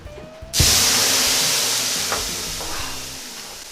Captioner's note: water steaming